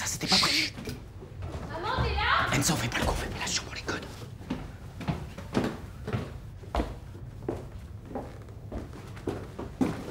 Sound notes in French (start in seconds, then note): 4.0 Bruits de pas